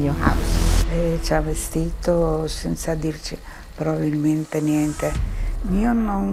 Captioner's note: speaking in foreign language